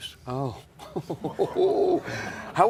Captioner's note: laughter